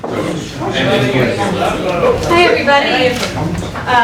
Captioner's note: chatter